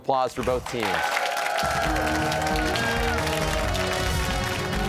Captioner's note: cheers and applause